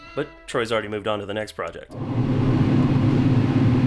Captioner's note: machine whirs